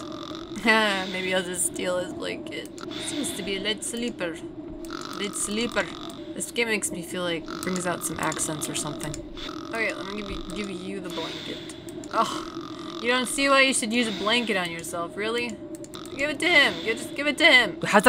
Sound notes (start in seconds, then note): 4.5 some Irish hybrid accent comes on all of a sudden